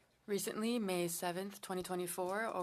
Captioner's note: speaking French